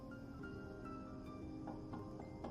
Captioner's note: knocking